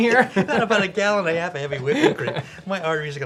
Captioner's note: laughing